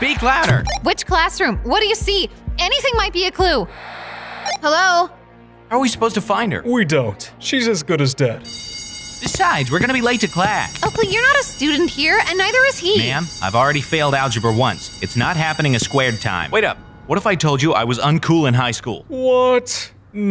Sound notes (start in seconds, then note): 0.0 radio beeping; 4.4 radio beeping; 8.5 bell ringing